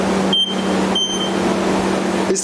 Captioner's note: device beeping